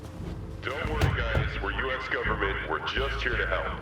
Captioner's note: loudspeaker